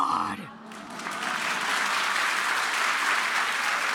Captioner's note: applause